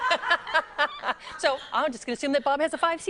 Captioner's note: laughing